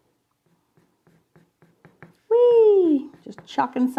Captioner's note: pencil scraping